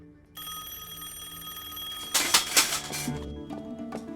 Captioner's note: telephone rings